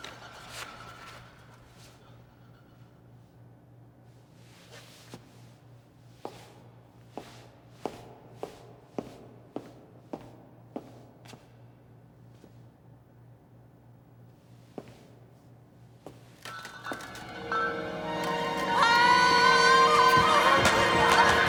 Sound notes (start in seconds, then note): 0.0 bottles shaking; 7.0 footsteps; 17.0 scary music